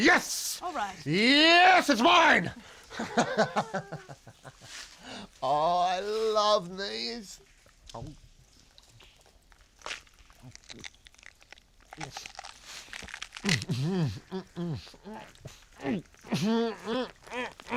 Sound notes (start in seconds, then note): 3.3 laughs; 7.7 gulps coin; 12.9 struggling to swallow coin